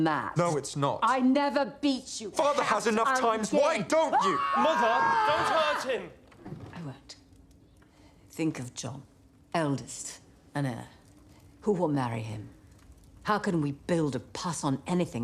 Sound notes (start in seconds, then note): 4.0 screams